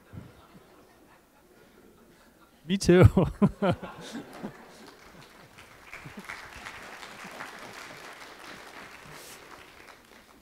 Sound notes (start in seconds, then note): 0.0 laughter; 2.9 laughter; 5.9 laughs; 7.6 applause